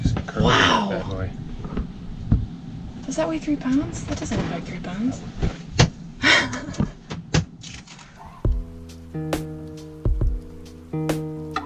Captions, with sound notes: Wow. Does that weigh three pounds? That doesn't look like three pounds. (laughs) (soft music)